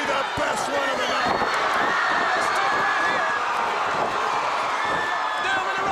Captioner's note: crowd cheering